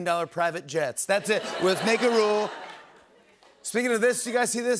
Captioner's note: laughter